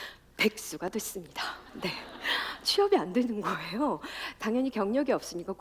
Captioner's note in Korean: 웃음